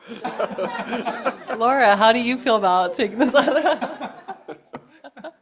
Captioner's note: laughter